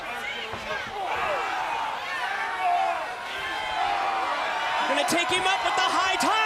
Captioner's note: crowd chatter